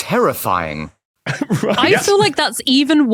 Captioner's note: laughs